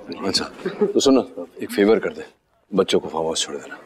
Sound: Ananya laughs

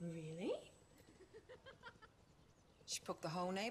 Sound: laughter

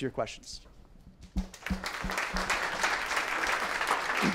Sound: applause

